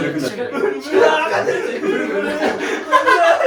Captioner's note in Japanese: 笑い